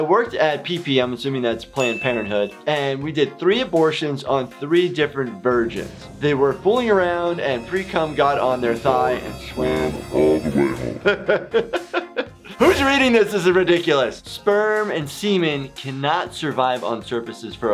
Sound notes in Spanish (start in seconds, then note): 10.5 se ríe